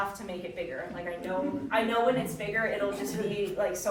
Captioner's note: audience chuckling softly